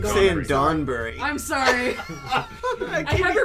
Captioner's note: laughter